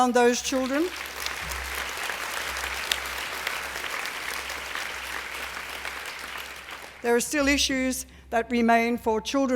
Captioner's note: applause